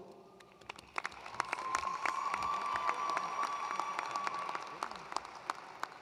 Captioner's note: attendees cheering and applauding